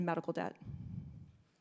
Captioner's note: breathes into microphone